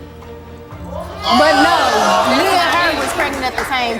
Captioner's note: audience yelling